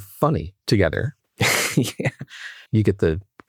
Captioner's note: laughing